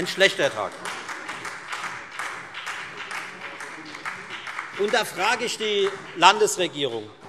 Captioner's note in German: Beifall Freie Demokraten und SPD